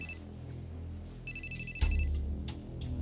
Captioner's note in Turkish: Telefon ısrarlı çalıyor